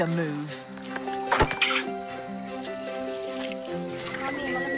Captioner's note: wood clunks; orangutan squeaks; babysitter speaking in foreign language